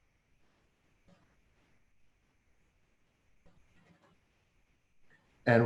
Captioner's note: silence